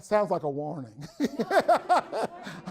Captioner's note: everyone laughs